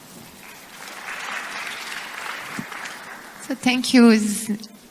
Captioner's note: applause